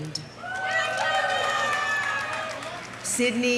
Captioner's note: audience cheering; audience applauding